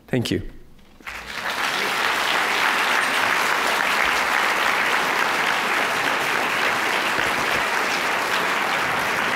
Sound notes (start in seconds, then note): 1.0 applause